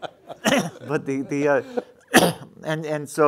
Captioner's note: laughing